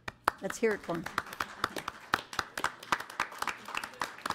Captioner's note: audience applauds